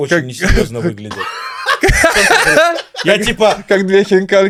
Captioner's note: laughs